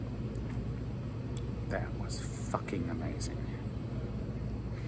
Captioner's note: lower voice